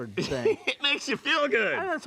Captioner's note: laughs